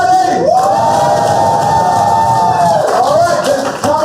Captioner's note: cheers